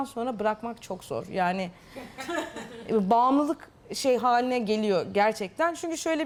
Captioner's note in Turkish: Gülüşmeler